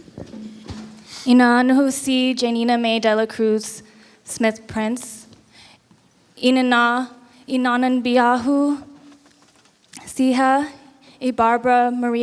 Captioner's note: non-english speech